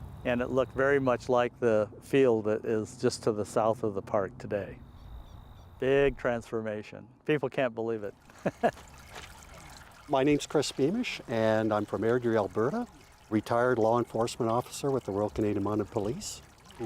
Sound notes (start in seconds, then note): 8.3 laughing